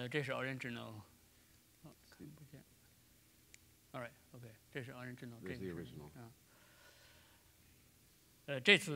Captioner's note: speaking in Chinese